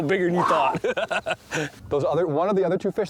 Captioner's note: laughing